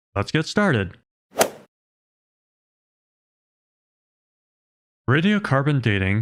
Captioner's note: golf ball hit sound effect